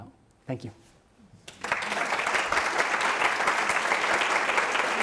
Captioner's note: applause